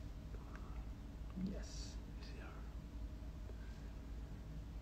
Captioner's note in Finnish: Tech support whispering